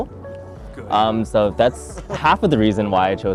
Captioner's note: laughs